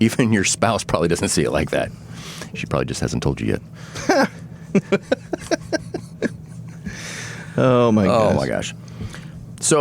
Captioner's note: laughter